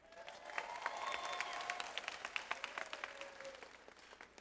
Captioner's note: audience applauds